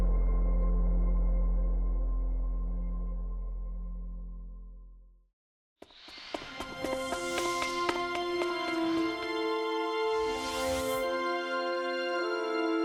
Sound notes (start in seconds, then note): 5.9 cinematic music; 6.0 footsteps clicking